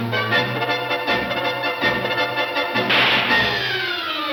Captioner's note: gun shot fires